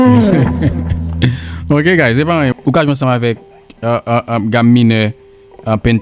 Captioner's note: laughs